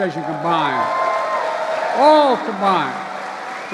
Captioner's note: applause